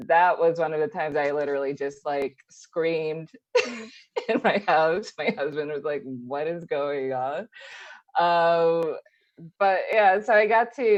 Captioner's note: laughs